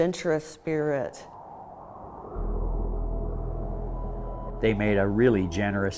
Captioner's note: wind whooshing; soft inspirational music